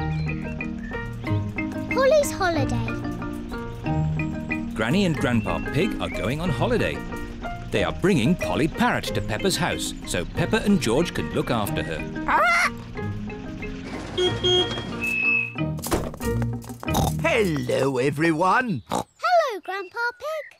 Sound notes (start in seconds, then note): 13.8 beeps horn; 16.9 oinks